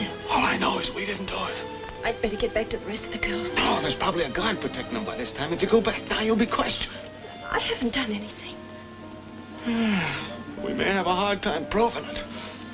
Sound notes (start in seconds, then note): 9.6 sigh